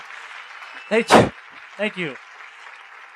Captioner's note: applause